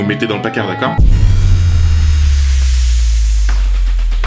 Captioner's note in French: Bruit de suspens